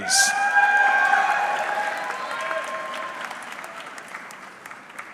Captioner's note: audience cheering